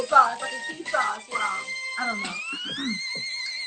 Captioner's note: clears throat